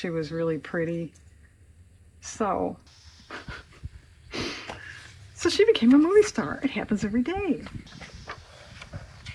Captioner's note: laughs